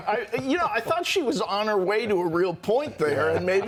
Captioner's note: laughter